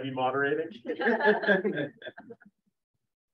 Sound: laughter

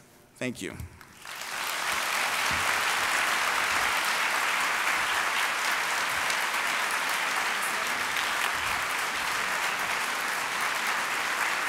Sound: applause

